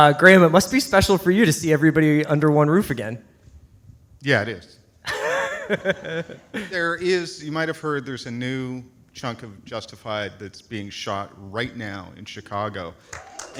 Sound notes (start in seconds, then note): 5.1 light laughter